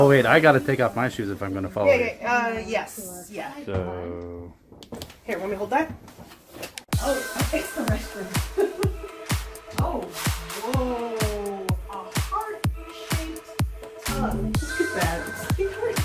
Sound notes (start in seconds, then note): 8.5 laughs